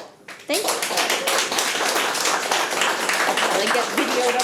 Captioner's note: audience applauding